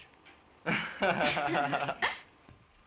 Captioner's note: laughter